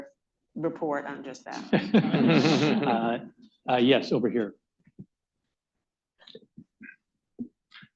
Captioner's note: laughter